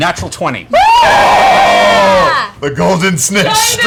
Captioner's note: cheering